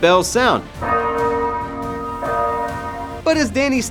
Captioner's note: bells ringing